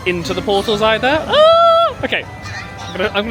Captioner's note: squeals